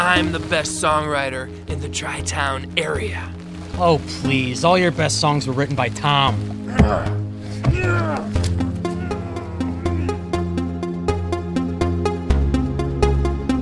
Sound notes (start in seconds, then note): 7.6 Mitch grunts; 9.1 pensive synth music continues